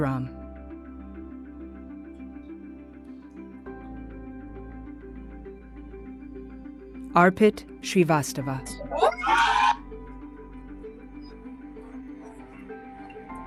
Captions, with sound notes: Arpit Srivastava. [CHEERING]